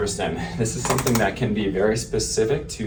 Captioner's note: ArthroStim tapping